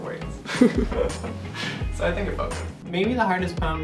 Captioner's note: chuckling